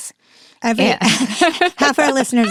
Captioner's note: both chuckles